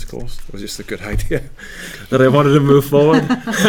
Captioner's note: laugh